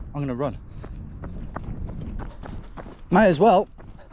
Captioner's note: footsteps racing